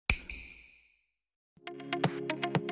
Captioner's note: snap